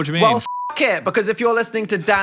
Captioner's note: beeps